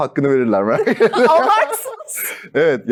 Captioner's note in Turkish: kahkaha